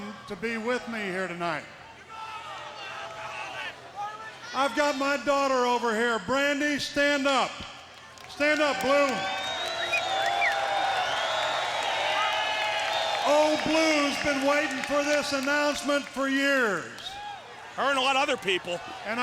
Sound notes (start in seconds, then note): 10.3 crowd cheering